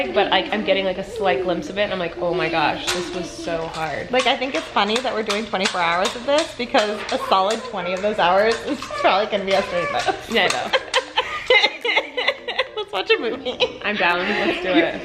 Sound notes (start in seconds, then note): 11.9 laughing